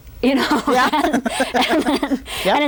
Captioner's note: laughing